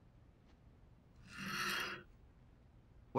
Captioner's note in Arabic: الشماعات تنزلق مفتوحة